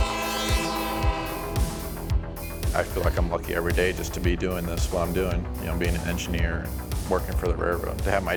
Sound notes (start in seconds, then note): 0.0 train horn blowing; 1.9 electronic music